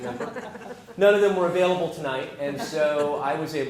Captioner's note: laugh